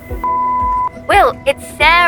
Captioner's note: phone beeping